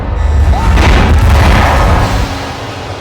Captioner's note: screams